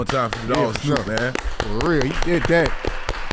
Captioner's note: everybody applauds